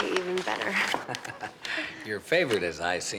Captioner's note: chuckles